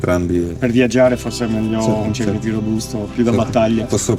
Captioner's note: speaking Italian